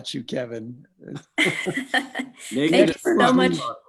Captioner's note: everyone chuckles